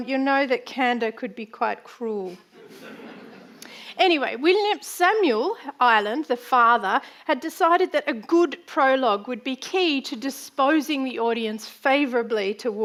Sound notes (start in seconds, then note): 2.6 audience laughing